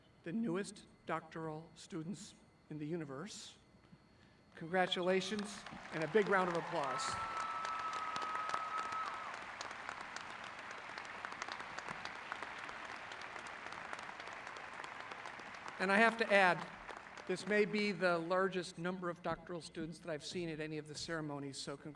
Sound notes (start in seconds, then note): 7.2 crowd cheering